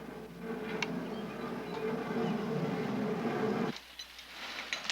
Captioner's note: handle cranking